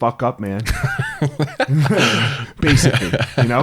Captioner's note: both laugh